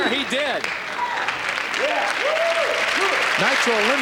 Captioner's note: applause